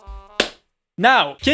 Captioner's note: clap